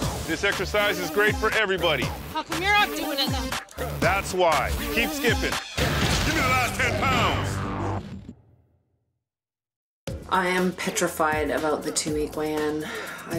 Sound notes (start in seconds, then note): 5.4 voiceover